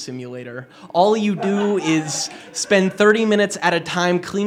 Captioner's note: laughter